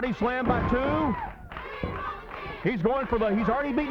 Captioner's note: crowd cheering; body thudding